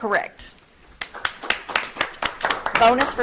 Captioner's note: audience clapping